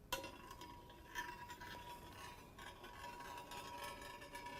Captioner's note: tube ringing